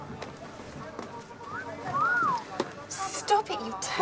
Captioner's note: suara siul